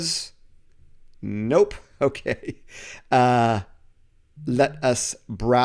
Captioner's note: laughs